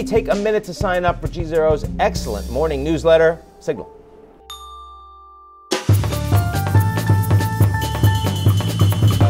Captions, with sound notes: take a minute to sign up for GZERO's excellent morning newsletter, Signal. (bell dings) (upbeat music)